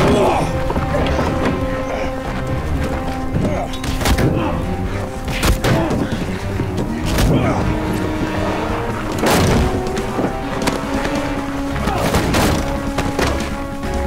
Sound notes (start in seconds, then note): 3.2 shouting & commotion